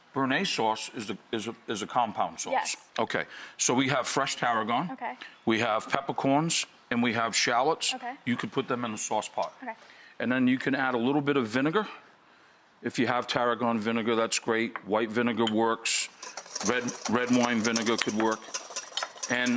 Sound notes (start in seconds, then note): none